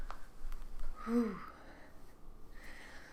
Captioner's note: another nervous exhale